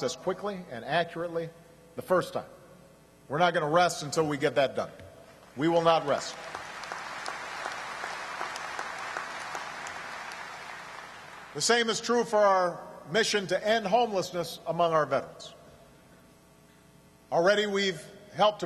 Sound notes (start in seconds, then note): 9.3 applause